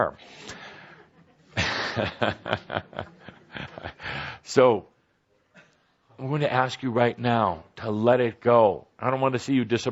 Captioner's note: chuckles